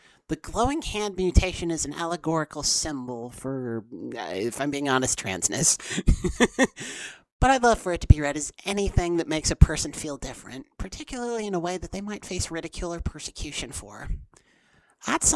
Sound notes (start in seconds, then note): 5.8 chuckle